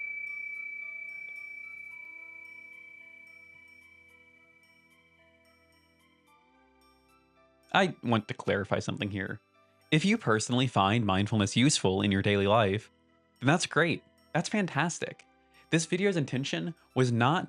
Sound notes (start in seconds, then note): 7.6 ding